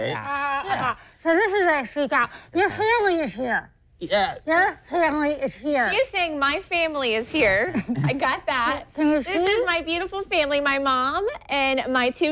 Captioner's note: laughter